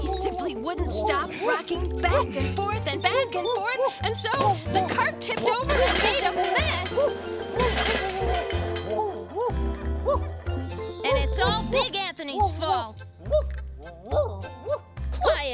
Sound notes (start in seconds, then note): 7.6 pie tins crashes; 14.6 dog barking